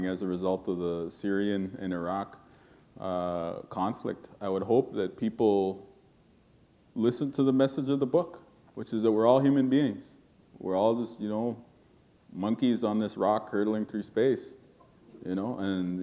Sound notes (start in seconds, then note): none